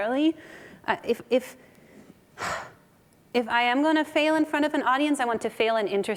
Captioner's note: sighs